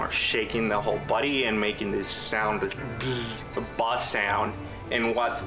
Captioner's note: imitates buzzing